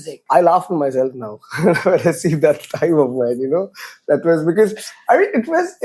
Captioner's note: laughs